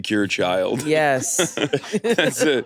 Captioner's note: all laughing